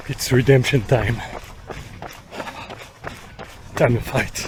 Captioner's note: heavy breathing